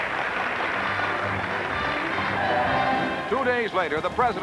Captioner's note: applause